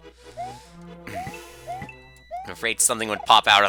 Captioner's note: clears throat